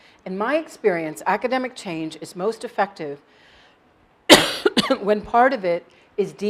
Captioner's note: cough